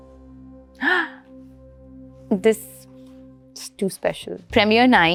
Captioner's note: gasps